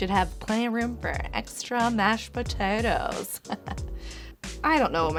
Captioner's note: chuckles